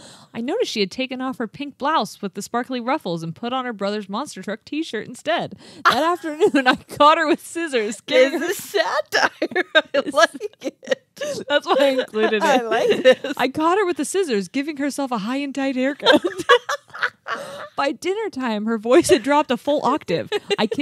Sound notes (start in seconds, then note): 15.8 laughing